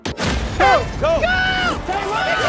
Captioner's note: horn blares